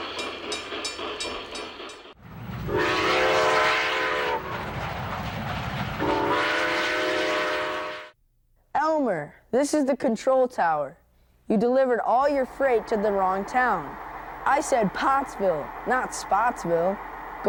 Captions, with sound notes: - [Voiceover] Elmer, this is the control tower. You delivered all your freight to the wrong town. I said Pottsville, not Spottsville.